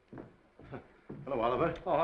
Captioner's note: Casey chuckles